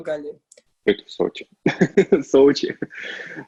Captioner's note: laughs